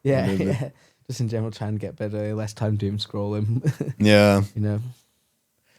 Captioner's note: laughs